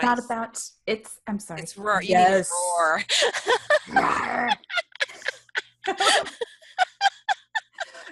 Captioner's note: rawr